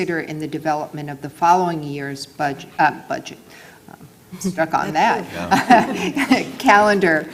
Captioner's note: laugh